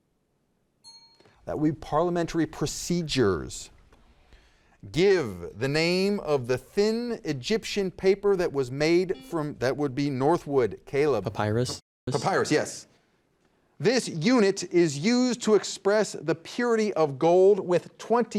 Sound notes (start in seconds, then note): 0.8 bell dings; 10.0 buzzer beeps